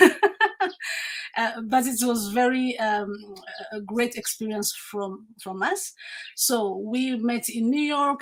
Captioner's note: laughs